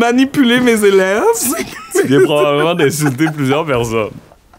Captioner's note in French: éclat de rire